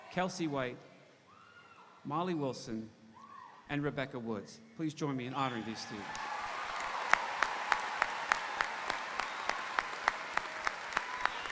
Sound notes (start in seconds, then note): 5.4 audience cheering; 5.5 audience applauding